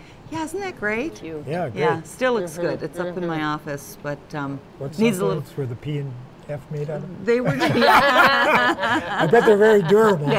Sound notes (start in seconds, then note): 7.4 laughter